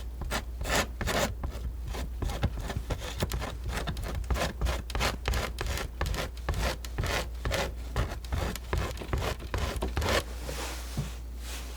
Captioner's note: scratching